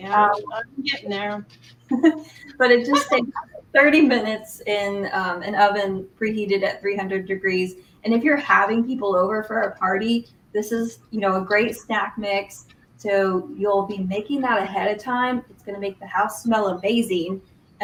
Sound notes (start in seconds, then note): 2.9 laughter